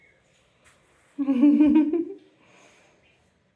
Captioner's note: laughing